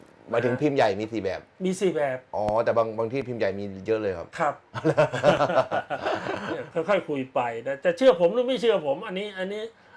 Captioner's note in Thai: เสียงหัวเราะ